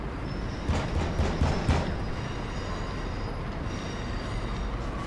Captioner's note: Sonny knocking on door